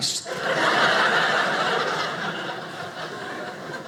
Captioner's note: audience laughing